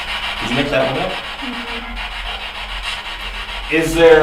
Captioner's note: static buzzing